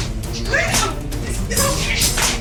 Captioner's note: smack